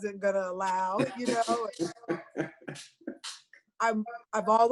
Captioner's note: laughs